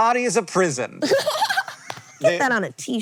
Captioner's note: laughs